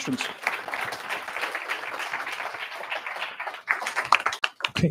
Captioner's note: applause